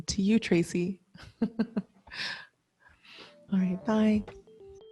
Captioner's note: chuckles